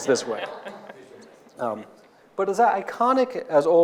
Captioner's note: audience laughing